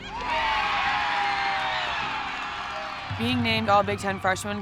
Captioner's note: players cheering